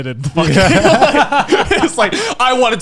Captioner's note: all laughing